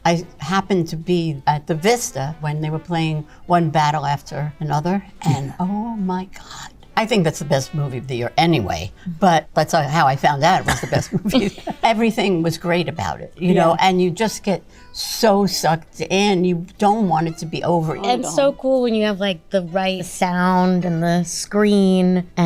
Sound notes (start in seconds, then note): 10.6 giggles; 10.6 Danny laughs